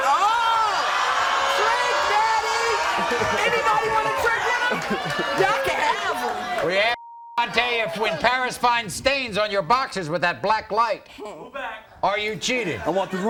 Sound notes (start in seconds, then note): 4.4 audience oohs